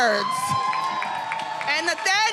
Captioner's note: attendees cheering and applauding